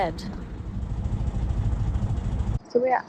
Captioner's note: narrowboat engine sound